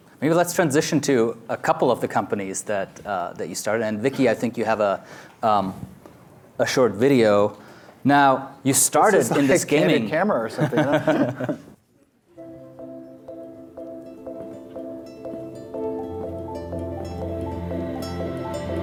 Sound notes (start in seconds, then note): 10.5 both laughs; 12.3 gentle music